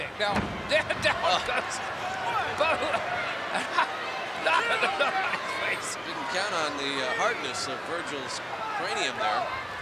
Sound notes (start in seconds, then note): 4.4 laughs